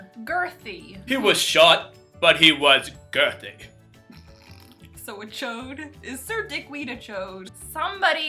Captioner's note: snorting